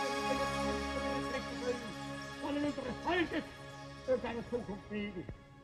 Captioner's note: speaking in foreign language